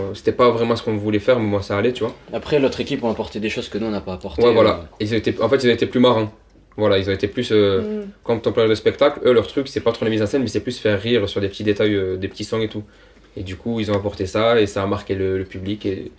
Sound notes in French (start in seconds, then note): none